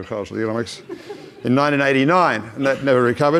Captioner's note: audience laughs